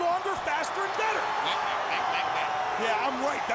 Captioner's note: Scott mocking babbles